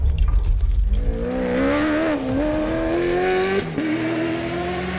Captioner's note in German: Motor heult auf